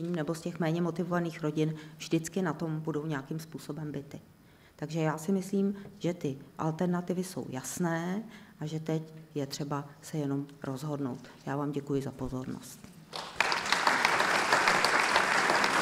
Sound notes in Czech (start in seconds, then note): 13.1 potlesk